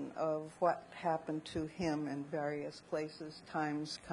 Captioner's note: none